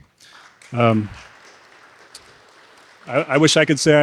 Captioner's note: audience applauding